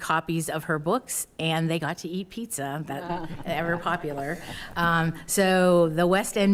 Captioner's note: attendees laughing